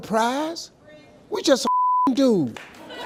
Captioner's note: beep